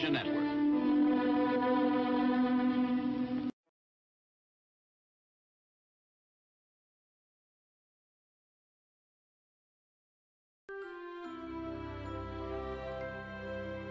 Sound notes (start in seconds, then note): 4.6 silence; 10.7 relaxing music plays to the tune